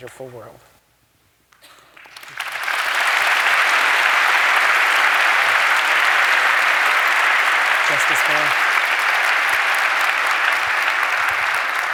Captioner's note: applause